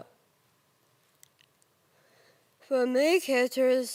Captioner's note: soft breathing